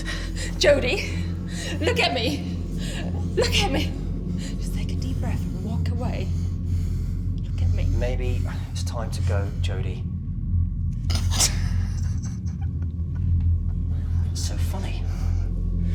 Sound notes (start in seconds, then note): 8.7 laughing